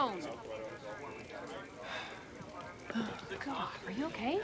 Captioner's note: officers chattering